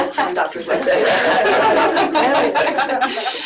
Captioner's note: laughter